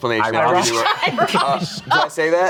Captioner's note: laughs